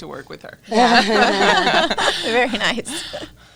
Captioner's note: laughs